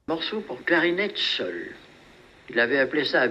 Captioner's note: non-english speech